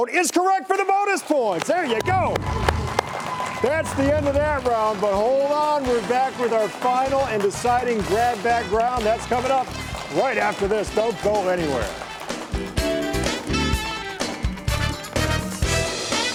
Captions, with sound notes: There you go! (audience applauding) That's the end of that round, but hold on, we're back with our final and deciding grab bag round. That's coming up right after this. Don't go anywhere. (upbeat music)